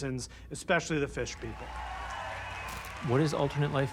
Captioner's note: audience cheering, applauding